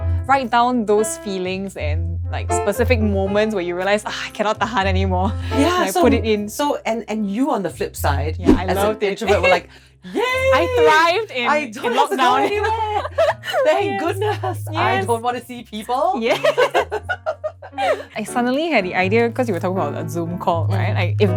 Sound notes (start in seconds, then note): 4.4 sighs; 16.2 both laugh